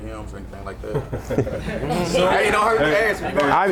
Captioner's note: laughing